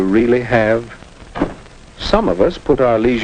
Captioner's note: soft thump